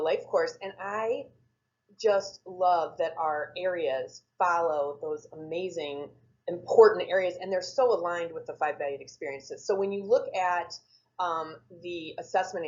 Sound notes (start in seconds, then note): none